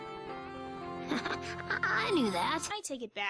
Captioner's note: chuckle